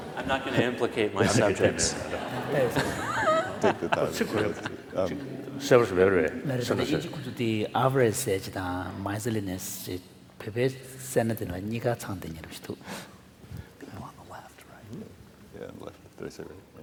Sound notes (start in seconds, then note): 1.2 laughter; 4.3 foreign Language; 12.0 foreign language